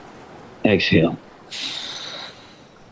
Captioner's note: exhales